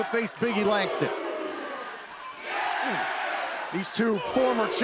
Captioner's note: crowd cheering